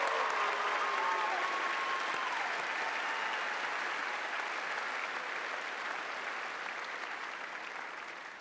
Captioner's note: cheers and applause